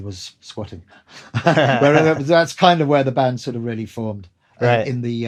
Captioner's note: laughter